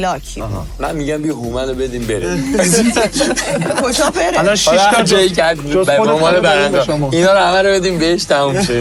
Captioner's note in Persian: خنده; خنده